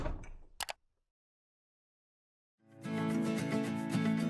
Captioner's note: mouse clicks; upbeat guitar music